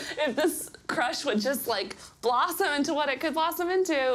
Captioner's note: laughs